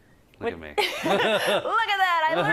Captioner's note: laugh